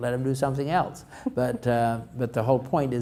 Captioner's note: chuckles